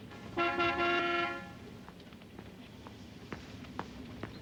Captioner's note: horn honking